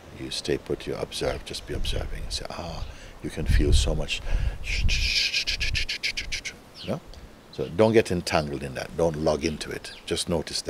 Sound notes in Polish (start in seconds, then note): 4.6 dźwięk umysłowej paplaniny